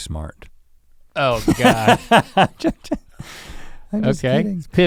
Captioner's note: Rhett laughs